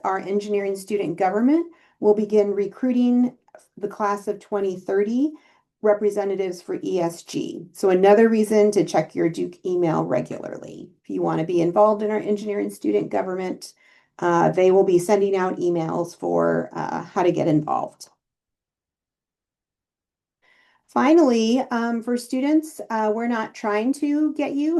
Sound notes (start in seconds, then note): 19.1 silence; 20.3 inhale